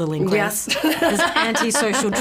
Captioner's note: chuckles